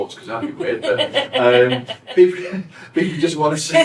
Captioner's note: both laugh